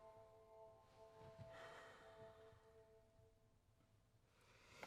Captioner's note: exhale